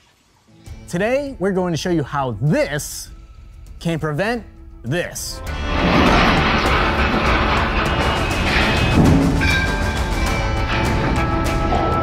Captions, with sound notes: - Today we're going to show you how this can prevent this. (ring crashing loudly) (old western music)